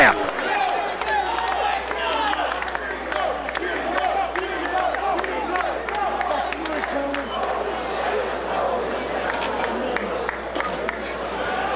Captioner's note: applause